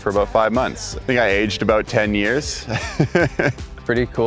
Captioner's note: laughs